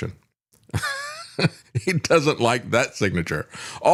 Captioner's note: laughs